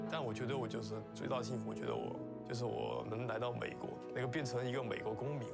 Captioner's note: foreign language speaking